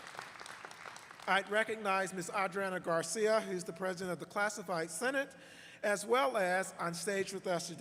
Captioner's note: applause